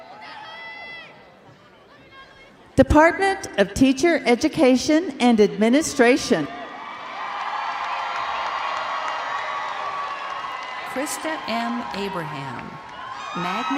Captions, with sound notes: Department of Teacher Education and Administration. (crowd cheering and applauding)